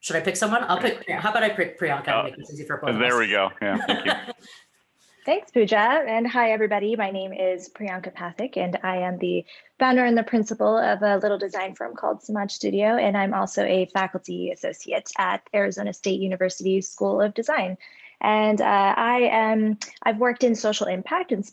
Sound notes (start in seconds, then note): 2.8 laughs; 2.9 giggles